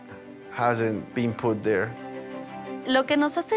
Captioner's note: woman speaks Spanish